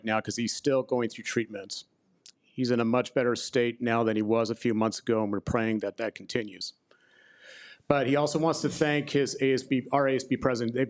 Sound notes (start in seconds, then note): none